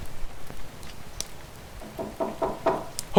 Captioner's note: knocking continues a bit louder